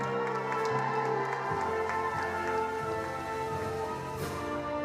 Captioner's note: attendees applauding